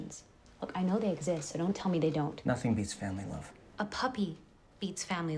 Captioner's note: none